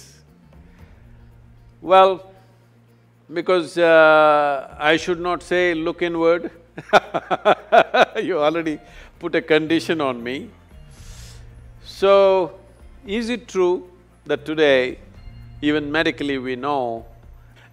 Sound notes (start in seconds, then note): 6.8 laughs